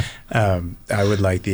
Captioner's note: laughs